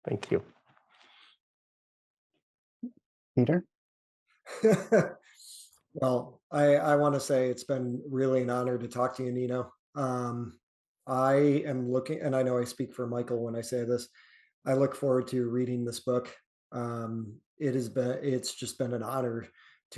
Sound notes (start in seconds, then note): 4.5 chuckles